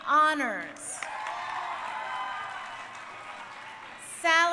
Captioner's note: crowd cheering